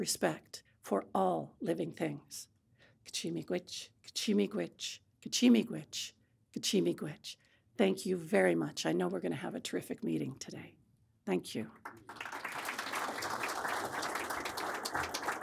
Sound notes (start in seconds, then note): 2.9 speaking Anishinaabemowin; 11.8 audience applauding